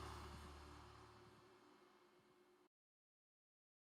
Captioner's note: birds chirping